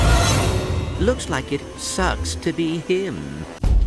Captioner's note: clank